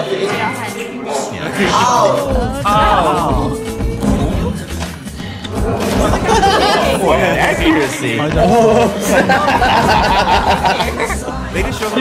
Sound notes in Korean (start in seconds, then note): 5.9 웃음